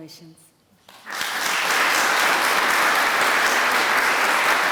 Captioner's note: applause